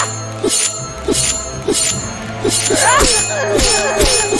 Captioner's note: sword clanging